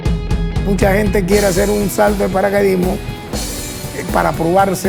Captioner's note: speaking Spanish